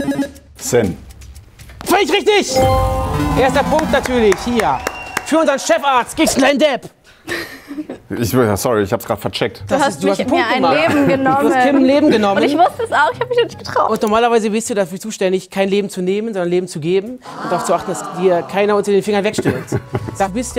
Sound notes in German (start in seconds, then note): 2.6 Jubel, Applaus